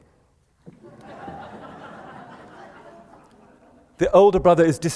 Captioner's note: laughter